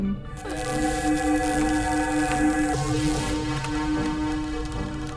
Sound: teleportation sound

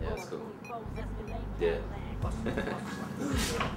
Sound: chuckles

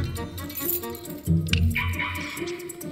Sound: car alarm chirps

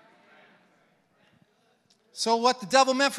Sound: congregants affirming

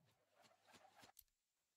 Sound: click

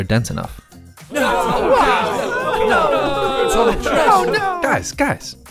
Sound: crowd screams in despair

